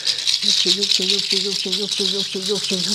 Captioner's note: chanting in Quechua